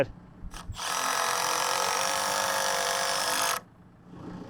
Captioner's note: drill whirring; motor humming